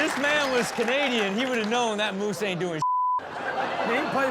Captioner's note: laughs; beep; audience laughs